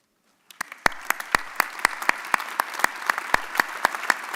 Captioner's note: audience applauding